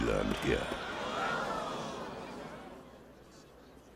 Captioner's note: crowd quietens down